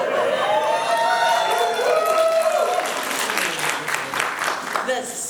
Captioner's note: applause